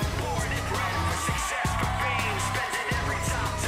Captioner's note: crowd cheering